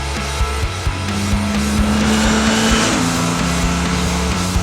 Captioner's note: motorcycle revving over music